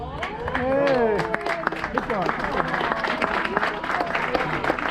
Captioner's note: crowd applauding